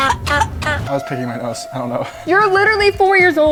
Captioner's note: person coughing